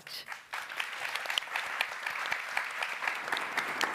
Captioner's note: applause